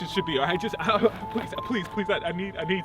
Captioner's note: stutters